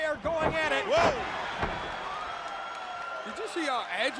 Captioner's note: crowd cheering